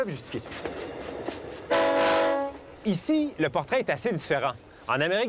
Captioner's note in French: sifflet du train